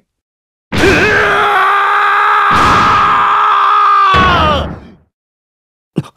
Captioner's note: self-explanitory. He's just screaming a whole lot